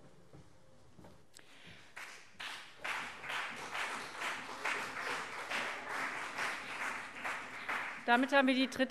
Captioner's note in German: Beifall CDU und BÜNDNIS 90/DIE GRÜNEN